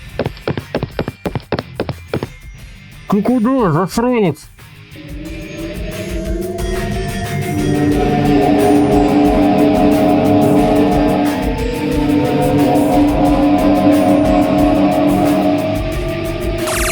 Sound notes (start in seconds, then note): 0.0 steps; 4.6 tractor beam vibrations; 4.9 box engines howl; 5.0 energy bursts; 5.0 portal squeak